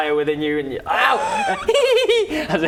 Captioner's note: childish laugh; gasp